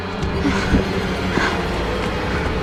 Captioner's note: Mollie breathing heavily